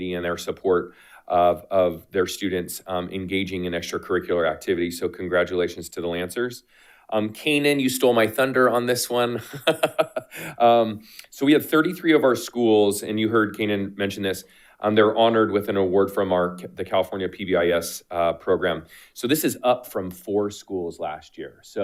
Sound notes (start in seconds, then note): 9.4 laughs